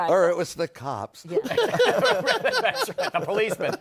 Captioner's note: laughter